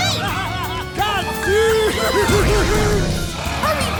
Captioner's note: yelling